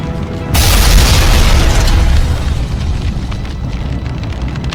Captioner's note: explosion booms